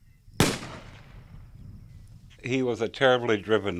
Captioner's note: rifle shot